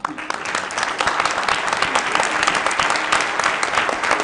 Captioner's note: applause